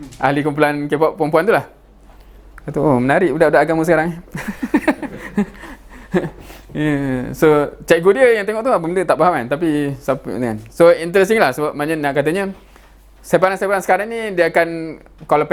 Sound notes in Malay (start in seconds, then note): 4.3 ketawa